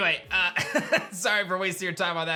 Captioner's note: chuckles